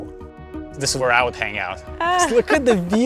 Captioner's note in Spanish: ríe